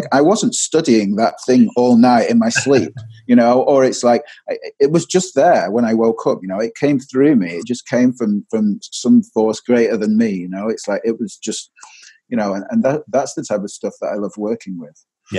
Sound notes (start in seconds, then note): 2.4 laughter